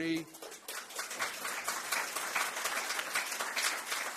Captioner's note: applause